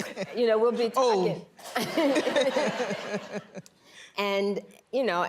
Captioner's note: laughing